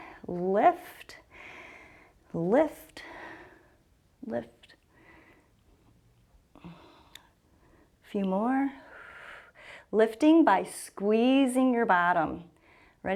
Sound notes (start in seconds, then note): 9.2 exhales